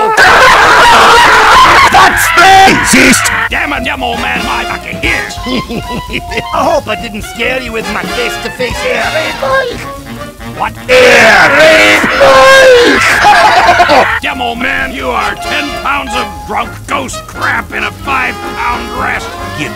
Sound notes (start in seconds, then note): 0.0 earrapes while Soldier screams; 5.5 chuckle; 10.8 earrapes while Soldier screams; 13.0 laughter